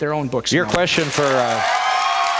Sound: applause

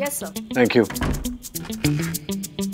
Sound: door closes

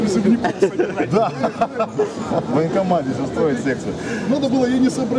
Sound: laughing

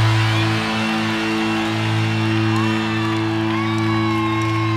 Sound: audience cheering

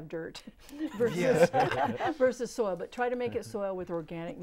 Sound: laughing

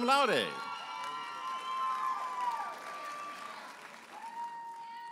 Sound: audience applauding and cheering

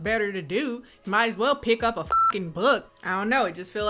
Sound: beep

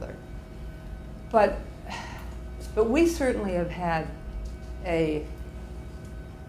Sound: sighs

